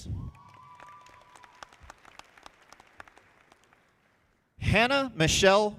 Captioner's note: audience applauding